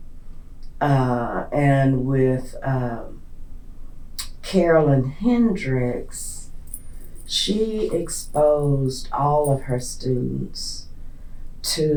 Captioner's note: laughs